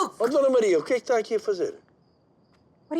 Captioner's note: speaking Portuguese